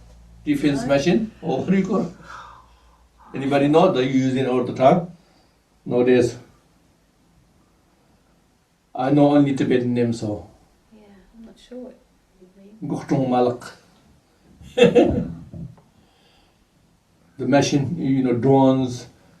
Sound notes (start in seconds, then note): 12.2 tibetan